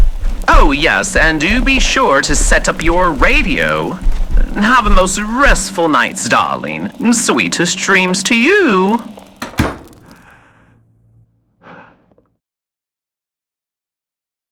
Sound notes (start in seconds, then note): 9.5 door slams shut fx, long sigh from other side